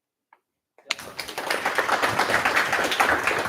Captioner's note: applause